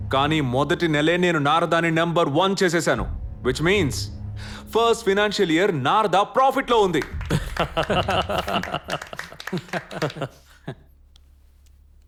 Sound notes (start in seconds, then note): 6.7 applause